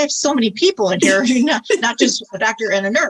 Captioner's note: laughs